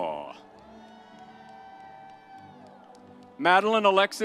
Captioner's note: audience cheers; soft music continues